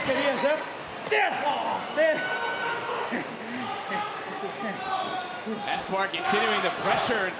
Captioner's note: spanish language